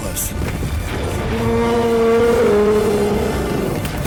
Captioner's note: furious cry